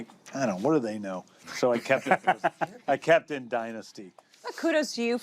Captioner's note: laughter